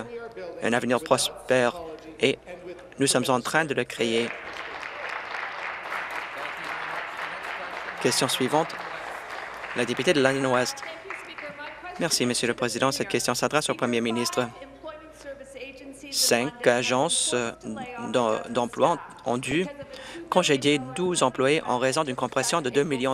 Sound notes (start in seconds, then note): 8.0 applause